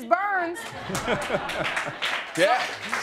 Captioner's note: laughing